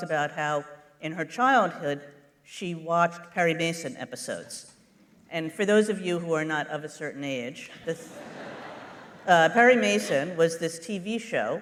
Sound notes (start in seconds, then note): 8.0 laughter